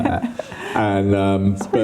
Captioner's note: laughing